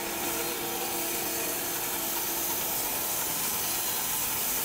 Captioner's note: machine sawing